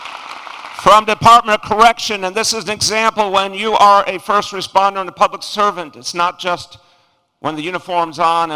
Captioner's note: applause